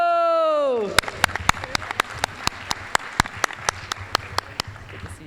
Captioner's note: applause